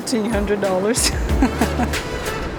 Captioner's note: laughs